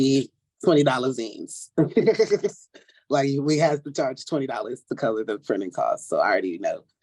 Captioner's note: laughs